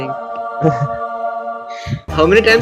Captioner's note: laughs